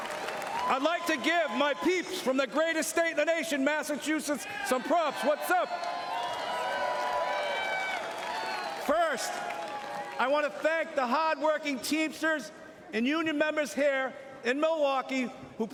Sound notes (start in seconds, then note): 0.0 cheering and Applause; 12.1 cheering